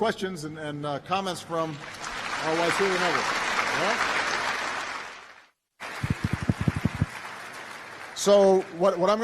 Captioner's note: applause